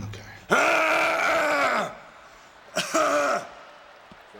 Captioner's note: screaming